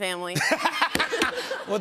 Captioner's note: laughter